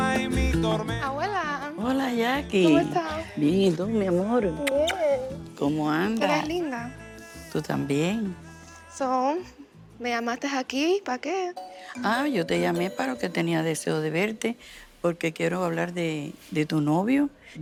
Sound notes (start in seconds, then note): 3.1 both speaking Spanish